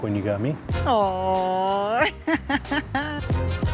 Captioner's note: laughs